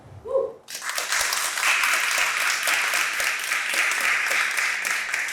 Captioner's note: audience applauds